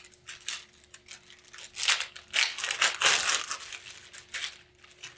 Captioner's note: package opening